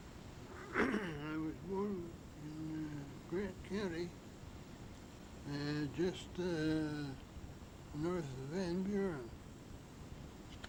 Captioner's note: clears throat